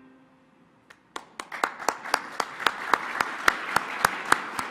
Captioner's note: all applauding